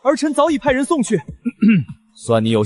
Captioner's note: cough